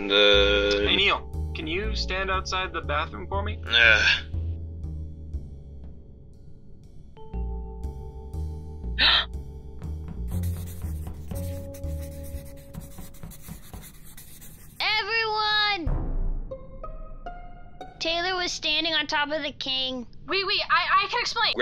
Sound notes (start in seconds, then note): 5.3 groans; 9.0 gasp; 10.3 writing scribbles